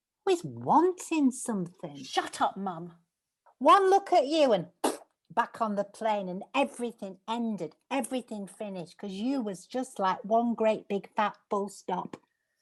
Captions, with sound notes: Always wanting something! - Shut up, Mum! One look at you and [BLOWS RASPBERRY] back on the plane and everything ended. Everything finished 'cause you was just like one great, big, fat full stop!